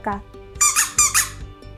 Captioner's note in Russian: писк